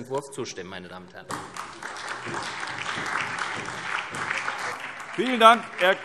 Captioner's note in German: Beifall SPD und Freie Demokraten